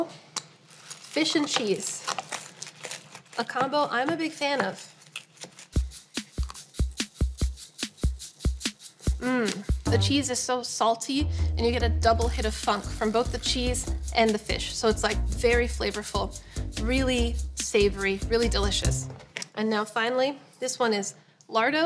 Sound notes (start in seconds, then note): 0.6 pizza crunching; 4.8 crunching